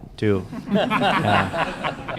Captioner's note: laughter